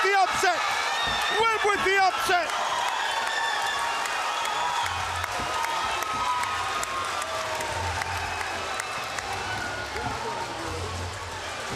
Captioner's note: cheering and applauding